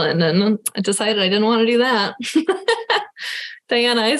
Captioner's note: laughing